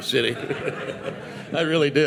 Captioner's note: participants audience laughing